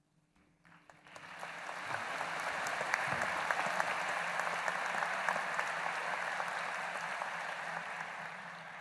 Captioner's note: applause